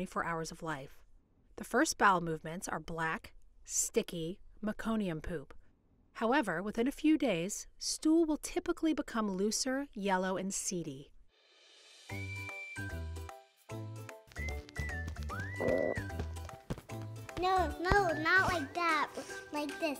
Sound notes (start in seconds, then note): 13.7 upbeat music; 15.1 light smacking; 15.6 belches